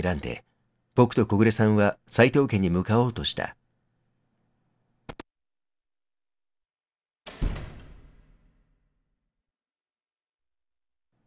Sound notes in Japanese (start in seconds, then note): 7.2 扉を閉じる音：バタン